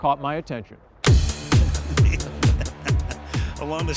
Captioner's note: laughing